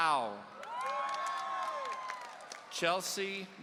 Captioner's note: audience cheering